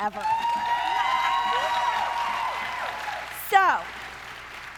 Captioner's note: audience cheering